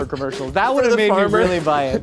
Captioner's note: laughs